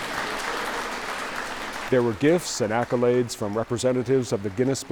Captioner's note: applause